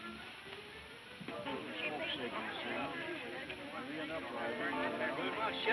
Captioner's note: people chatting